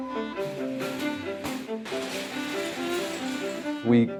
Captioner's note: clanging